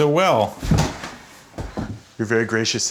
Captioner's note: thumps